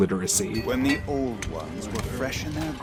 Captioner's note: metalworking sounds